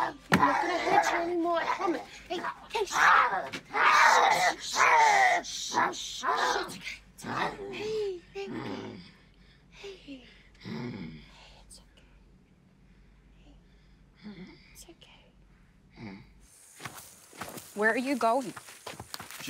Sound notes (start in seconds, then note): 3.0 snarls